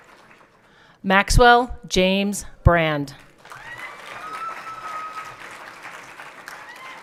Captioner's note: everyone clapping